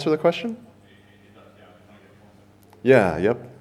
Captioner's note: man speaks softly